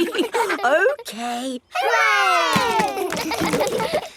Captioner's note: chuckles; kids laughing